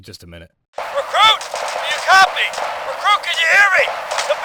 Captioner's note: gunfire Over Radio